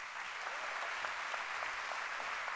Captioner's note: applause